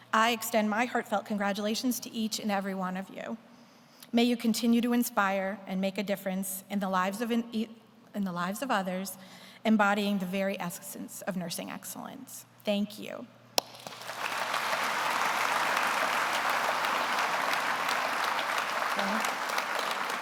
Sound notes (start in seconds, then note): 13.6 audience applauds